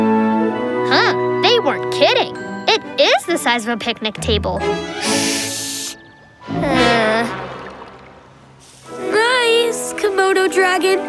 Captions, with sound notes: Huh, they weren't kidding. It is the size of a picnic table. Shh! [groaning] Nice Komodo dragon.